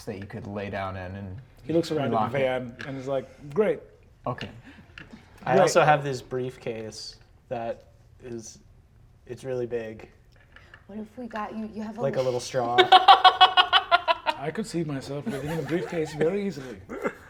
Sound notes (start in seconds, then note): 12.6 laughter